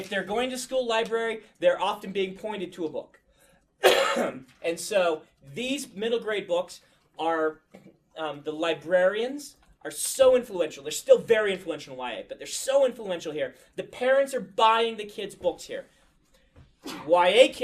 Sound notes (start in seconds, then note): 3.8 coughs